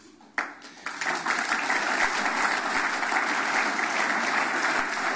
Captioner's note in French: Applaudissements